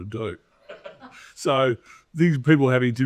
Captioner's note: audience laughing